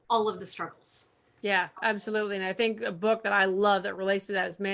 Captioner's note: none